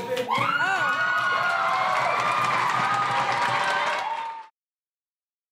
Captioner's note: audience applauds and cheers